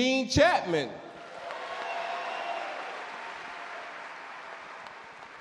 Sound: audience cheer and clap

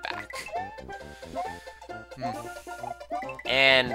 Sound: breathing

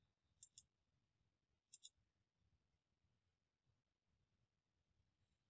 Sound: mouse clicking

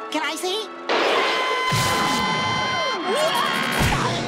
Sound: screaming

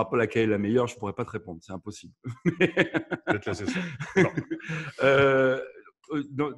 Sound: laughs

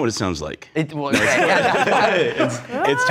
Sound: laughs

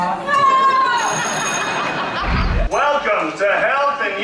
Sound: bell rings

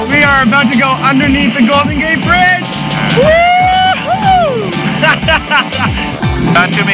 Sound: laughs

